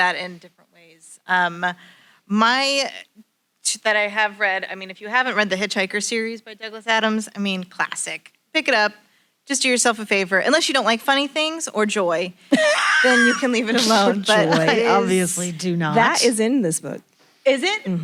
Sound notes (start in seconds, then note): 12.5 laughter in room